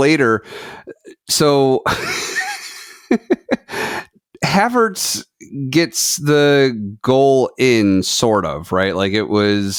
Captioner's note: laughs